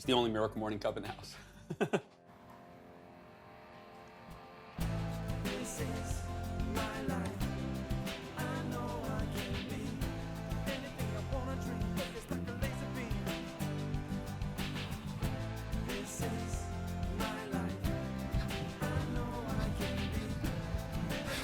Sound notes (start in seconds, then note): 1.4 laughs